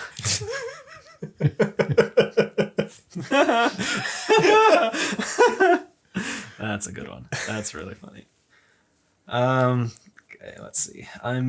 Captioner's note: laughs